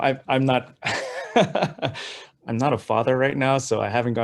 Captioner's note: laughs